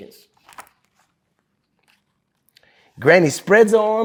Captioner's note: pages rustling